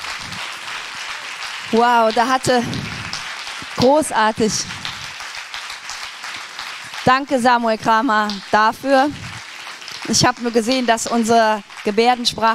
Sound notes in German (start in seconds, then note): 2.6 applaus